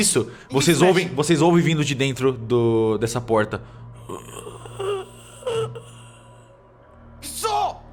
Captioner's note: zombie moaning